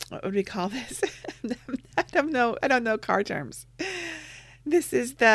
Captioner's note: laughs